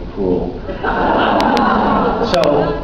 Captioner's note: laughs